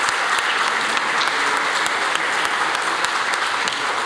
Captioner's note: applause